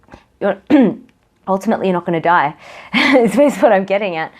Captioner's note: chuckles